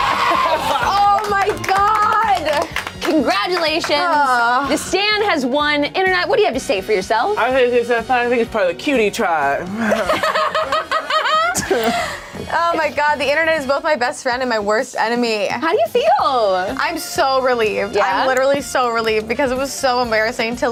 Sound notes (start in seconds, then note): 0.0 group applauds; 9.7 laughs